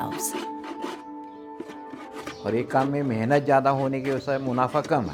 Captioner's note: speaking foreign language